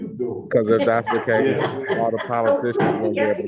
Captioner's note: group laughing